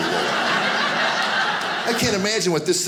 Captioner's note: audience laughing